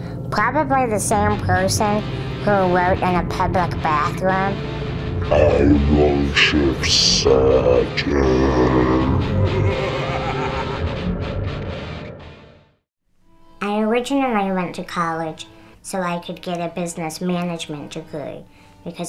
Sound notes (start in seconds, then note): 10.2 heavy rock music; 10.2 man laughing